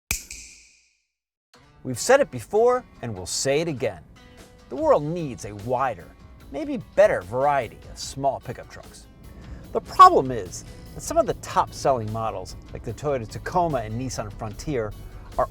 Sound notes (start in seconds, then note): 0.1 snap